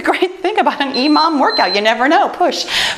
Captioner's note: timer beeps